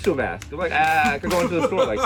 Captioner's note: Mero laughs